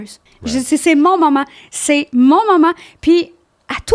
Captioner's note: in french